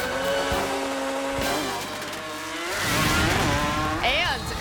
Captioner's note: car engine revving